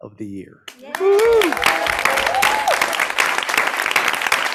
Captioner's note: audience clapping